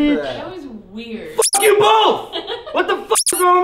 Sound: squeak

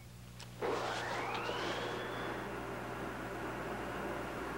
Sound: elevator whirring

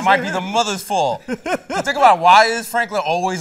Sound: laughter

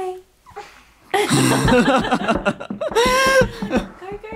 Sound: parents laugh

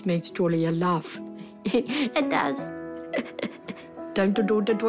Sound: chuckles

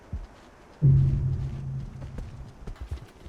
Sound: sound of death

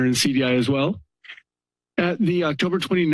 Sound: pause

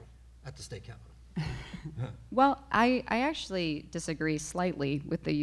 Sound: chuckles

